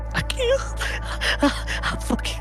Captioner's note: pants and laughs